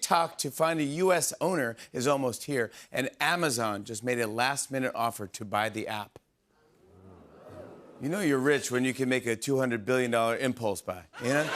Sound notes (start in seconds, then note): 6.9 audience oohs